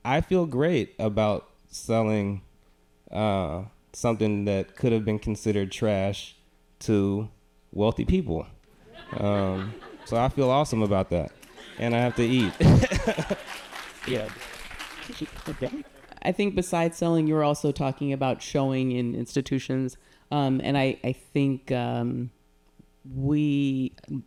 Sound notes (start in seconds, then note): 8.8 audience laughing; 11.2 audience applauding; 11.3 chuckles